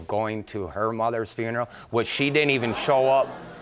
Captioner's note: audience gasps